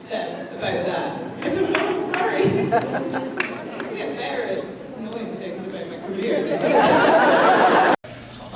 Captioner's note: laughs